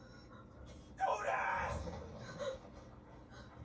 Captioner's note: screamed in agony